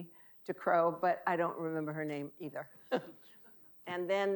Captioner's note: laughing